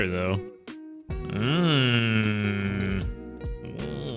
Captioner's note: moaning